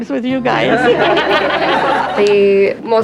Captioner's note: all laughing